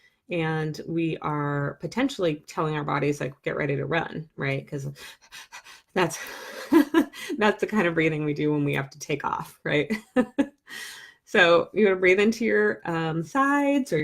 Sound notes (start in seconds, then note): 4.9 breathes fast; 9.8 laughs